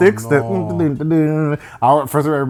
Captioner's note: humming